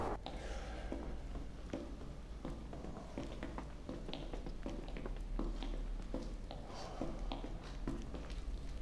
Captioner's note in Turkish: Ayak sesleri